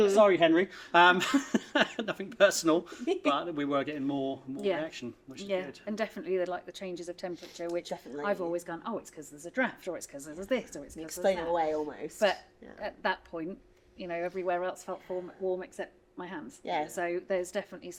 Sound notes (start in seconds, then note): 1.0 laughs; 1.2 giggle